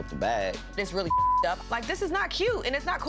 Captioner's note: beep